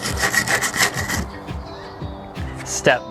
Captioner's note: scrubbing